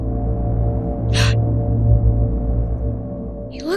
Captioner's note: Tiffany gasps